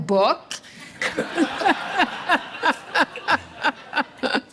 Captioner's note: audience laughing